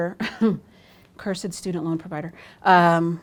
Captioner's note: chuckles